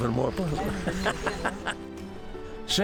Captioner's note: laughs